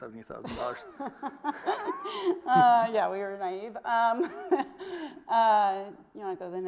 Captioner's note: laughs